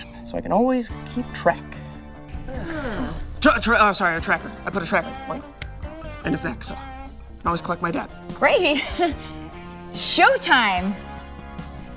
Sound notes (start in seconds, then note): 2.4 vocally disgusted; 3.7 stuttering; 8.6 laughs